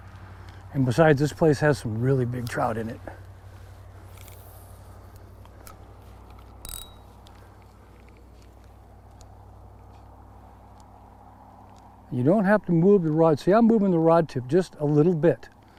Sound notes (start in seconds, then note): 3.1 reel spinning